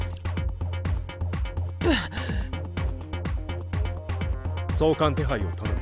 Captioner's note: spit